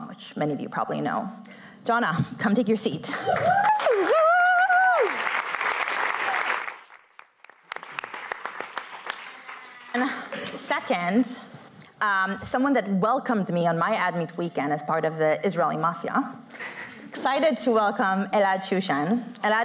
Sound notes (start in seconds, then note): 3.2 cheering; 5.0 applause